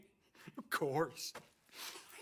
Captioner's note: laughing